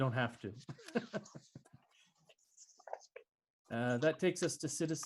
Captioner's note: laughs